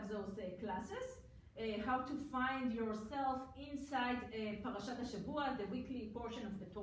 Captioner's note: foreign language